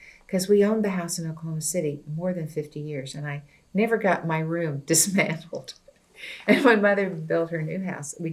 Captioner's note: laughs